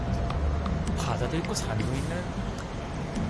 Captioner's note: in Gangwon dialect